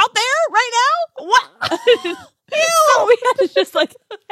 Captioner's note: laughs